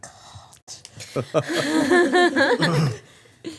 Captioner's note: everyone laughing